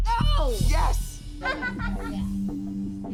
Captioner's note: laughs